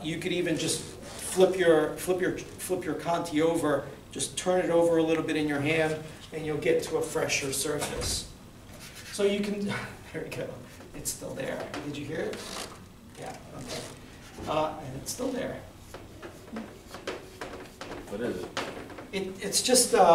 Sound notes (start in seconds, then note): 8.1 scratching noises